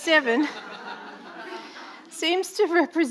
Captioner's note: audience laughing